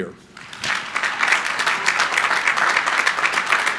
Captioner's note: crowd applauding